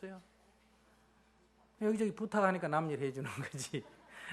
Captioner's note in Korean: 웃음